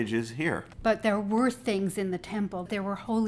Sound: voiceover

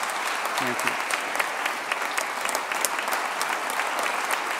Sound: applause

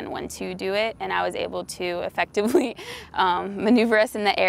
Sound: chuckles

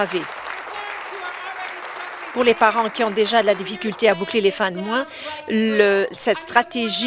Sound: applause

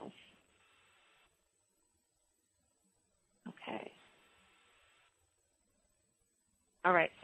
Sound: pause

